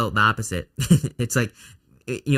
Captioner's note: laughs